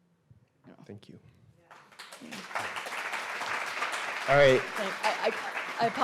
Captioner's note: audience applauds